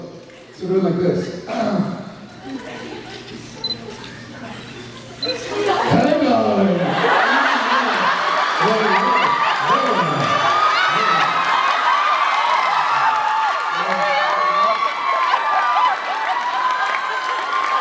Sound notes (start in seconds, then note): 1.2 clears throat; 7.1 laughs, applauds, cheers